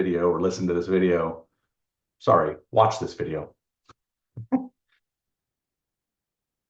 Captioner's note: chuckles